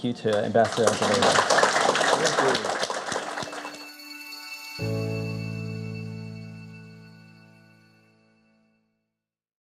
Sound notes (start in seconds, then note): 0.0 applause; 2.6 light music